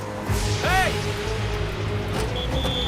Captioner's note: whistle blows